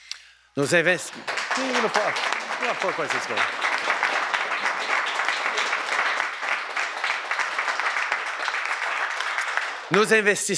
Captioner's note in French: Applaudissements